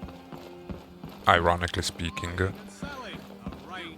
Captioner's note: ironically speaking